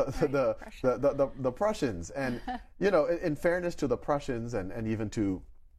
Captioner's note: chuckles